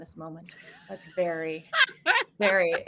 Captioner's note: laughing